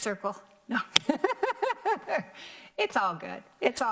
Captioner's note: laughs